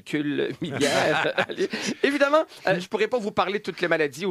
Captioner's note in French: rires